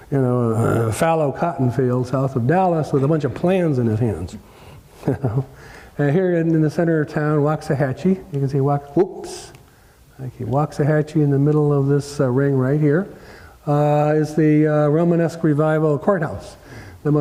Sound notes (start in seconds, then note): 4.9 laugh